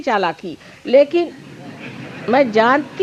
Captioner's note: laugh